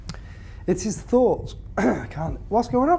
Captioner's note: clears throat